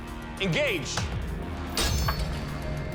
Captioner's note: clattering